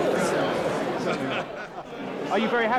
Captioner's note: people laughing